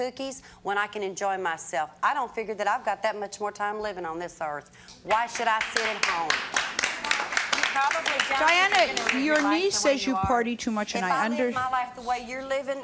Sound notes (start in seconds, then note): 5.4 clapping